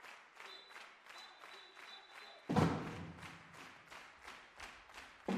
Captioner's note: applause